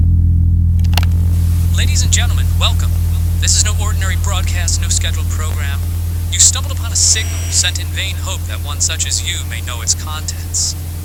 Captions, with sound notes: [Tape starts] Ladies and gentlemen, welcome This is no ordinary broadcast, no scheduled program You've stumbled upon a signal, sent in vain hope that one such as you may know its contents